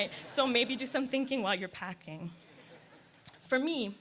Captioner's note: laughter